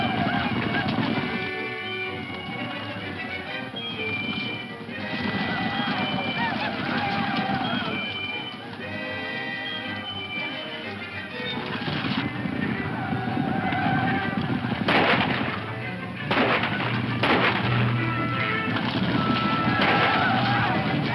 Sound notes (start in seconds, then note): 0.0 dramatic music; 4.2 whooping; 6.7 dramatic music; 10.6 whooping; 13.6 guns firing; 16.1 upbeat dramatic music